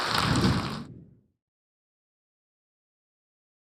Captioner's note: audience applauding; logo whooshes